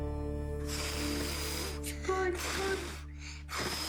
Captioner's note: blows